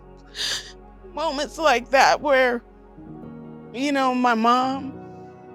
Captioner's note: crying